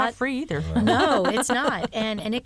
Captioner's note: laughter